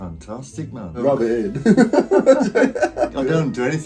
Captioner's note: laughs